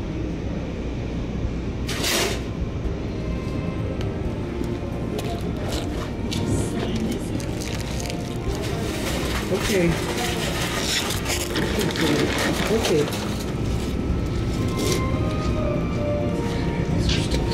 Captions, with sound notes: [Clang] It's okay. There we go, it's okay.